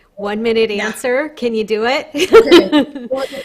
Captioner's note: laughing